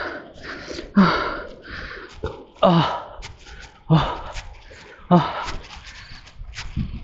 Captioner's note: heavy panting